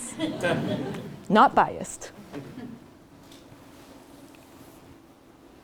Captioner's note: laugh